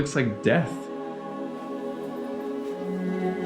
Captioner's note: laughs; inspirational music